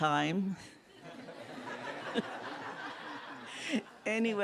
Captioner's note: laughter